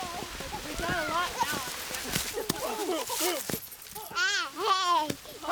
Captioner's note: laughs; child laughs